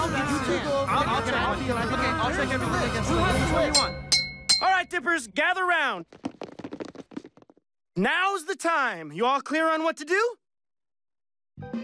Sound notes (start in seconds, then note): 3.7 ding ding